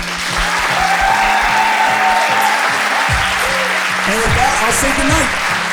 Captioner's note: audience cheering